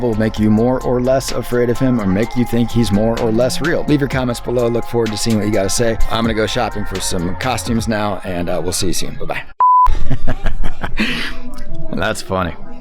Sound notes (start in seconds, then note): 9.6 beep; 10.0 laughs